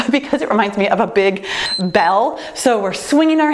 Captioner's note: timer beeps